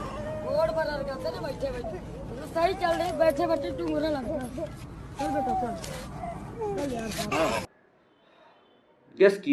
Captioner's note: crying child